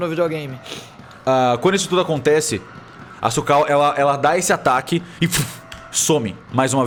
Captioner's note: whoosh